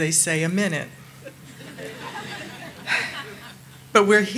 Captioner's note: audience laughing